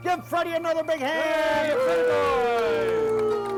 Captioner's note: cheering